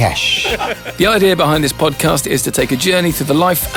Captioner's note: laughter